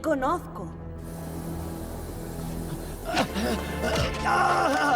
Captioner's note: gasping